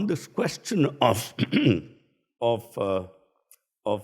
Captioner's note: clears throat